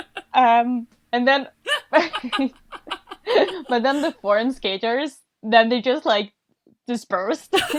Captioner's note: hosts laugh